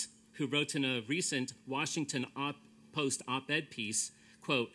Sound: none

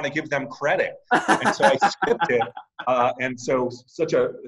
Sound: laughing

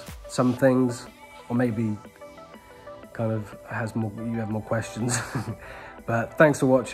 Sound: chuckles

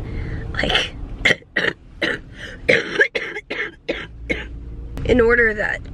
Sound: coughing

